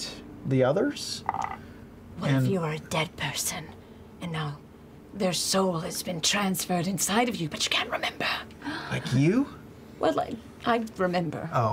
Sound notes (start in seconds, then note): 1.3 a dice rolling is audible; 8.6 Laura gasps